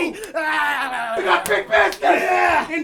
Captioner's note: collective excited spasming